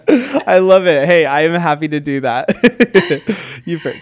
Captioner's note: laughs